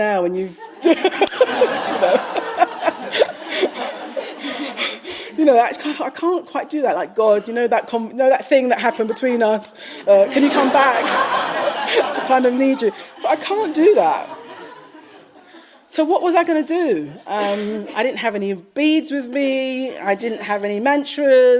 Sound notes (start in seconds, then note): 2.2 laughs; 3.6 audience laughing; 12.1 audience laughing